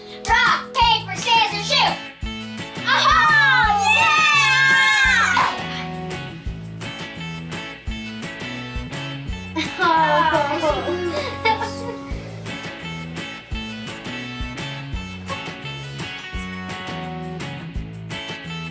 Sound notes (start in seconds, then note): 0.0 fun music; 6.9 fun music; 9.5 laughs